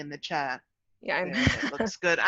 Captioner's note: laughs